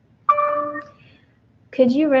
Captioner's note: computer dings